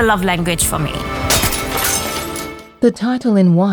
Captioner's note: glass breaking